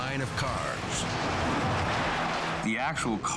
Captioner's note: car crashing